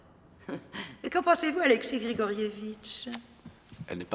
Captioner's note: giggles